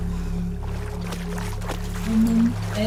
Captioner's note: water sloshing